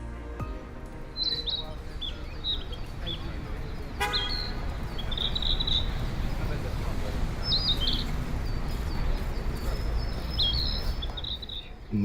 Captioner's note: A Bird Chirping